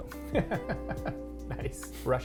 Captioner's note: chuckles